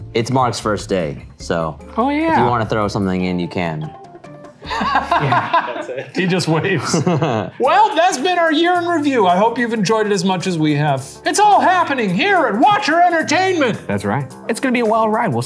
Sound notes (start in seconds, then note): 4.6 all laughing